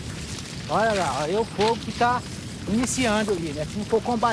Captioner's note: Portuguese spoken audio